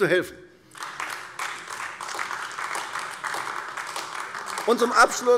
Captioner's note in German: Beifall AfD